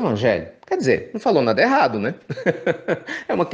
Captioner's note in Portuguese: risos